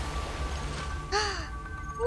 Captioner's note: gasps